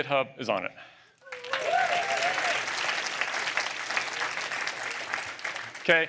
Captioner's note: applause